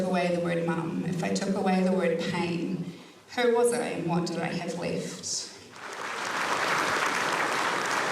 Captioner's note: applause